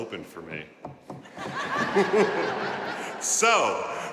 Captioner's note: audience laughing